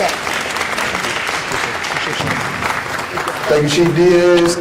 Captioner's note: applause